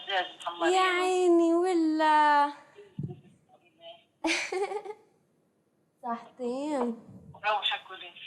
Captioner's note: non-english speech; laughs; non-english speech